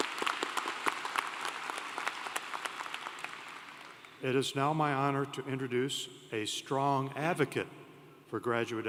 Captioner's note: applause